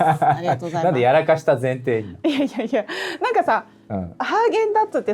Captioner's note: laughs